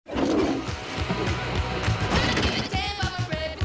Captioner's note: toilet Flushing